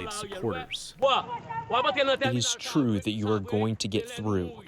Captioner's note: through translator